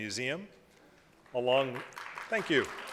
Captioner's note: applause